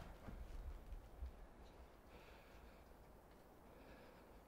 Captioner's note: John panting